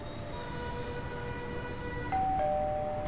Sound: calling bell

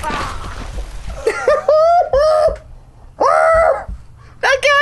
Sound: screaming

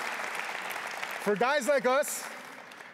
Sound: a pplause

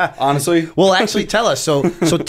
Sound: laughter

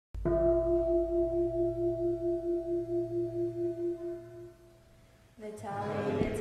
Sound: gong sounds

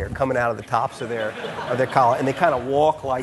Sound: audience laughing

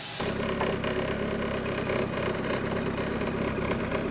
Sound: engine runs

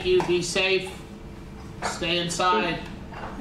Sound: none

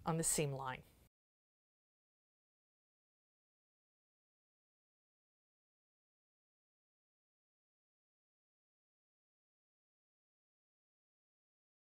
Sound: no Sound Present

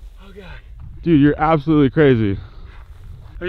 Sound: breathing heavy

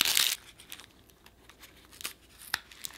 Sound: tearing

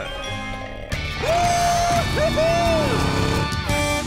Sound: cheering

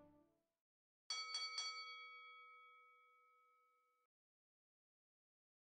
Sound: bell rings

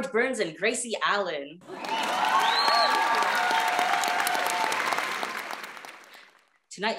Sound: applause

